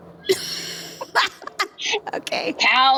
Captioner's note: laugh